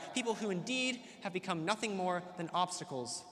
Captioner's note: none